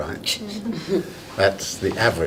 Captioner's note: laughing